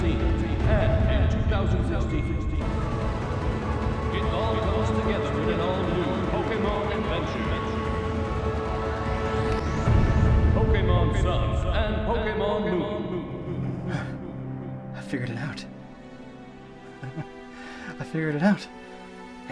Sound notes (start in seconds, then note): 13.6 gasps; 16.9 laughs